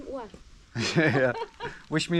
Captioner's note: both chuckles